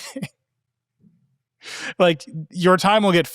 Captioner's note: laughing